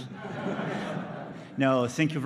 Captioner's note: laughter